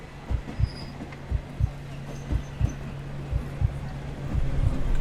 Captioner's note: heartbeat accelerates, continues